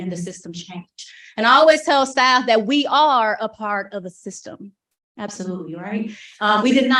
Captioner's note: chuckle